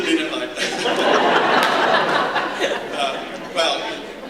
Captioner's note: laughter